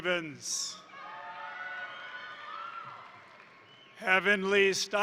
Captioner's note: crowd cheering; crowd applauding